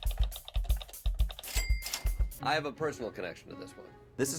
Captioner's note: clicking and dinging